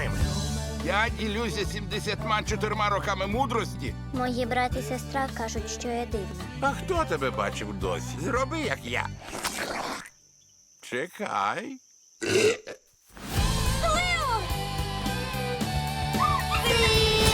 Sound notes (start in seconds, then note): 9.1 slurps; 12.2 burps; 16.1 kids clamoring